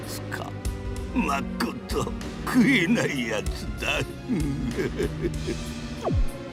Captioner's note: chuckle